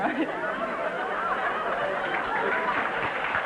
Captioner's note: laughing; audience wooing; applause